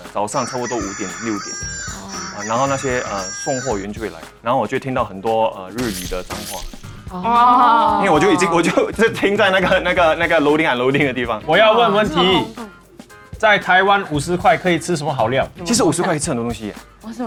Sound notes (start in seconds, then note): 7.2 ohh